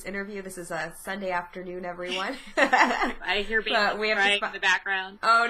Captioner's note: laughs